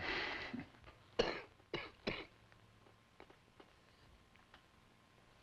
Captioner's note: coughs